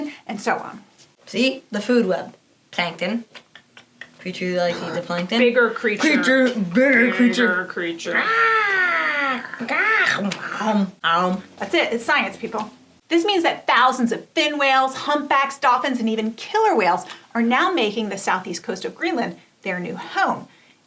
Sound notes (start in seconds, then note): 8.1 eating noises